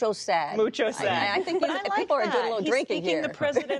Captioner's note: laughter